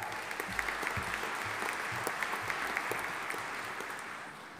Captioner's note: audience applauding